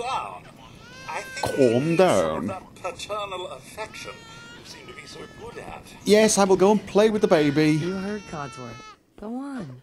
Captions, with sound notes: *mocking codsworth's accent* Calm down Yes, I will go and play with the baby!